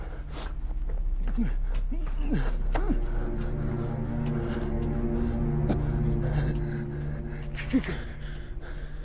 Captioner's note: rapid breathing, groaning